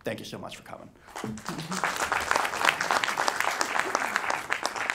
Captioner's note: audience applauding